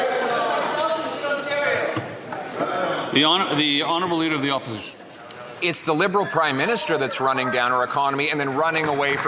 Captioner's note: some Applause